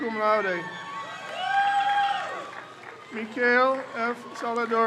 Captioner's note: crowd cheers